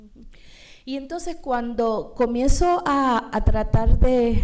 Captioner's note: speaking spanish